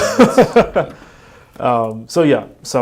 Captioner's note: laughing